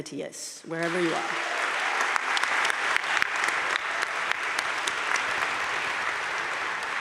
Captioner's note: audience cheering and applauding